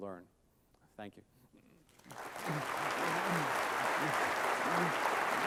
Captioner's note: applause